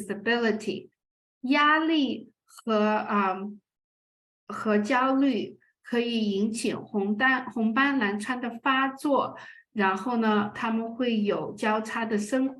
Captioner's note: speaking chinese